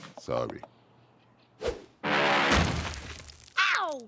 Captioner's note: zoom! crash!